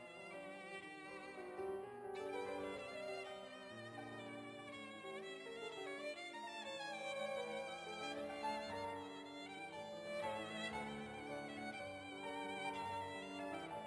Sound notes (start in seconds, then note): none